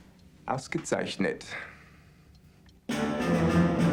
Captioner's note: speaking german